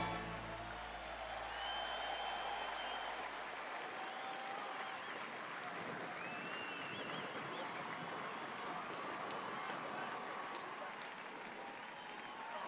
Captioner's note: applause